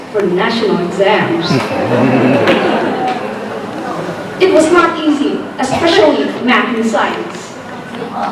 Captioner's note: laughter